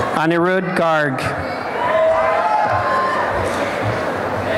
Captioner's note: applause and cheering